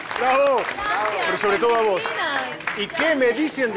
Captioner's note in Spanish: Ríe